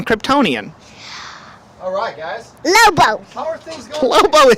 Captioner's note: breath